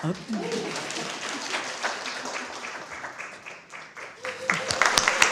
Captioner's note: applause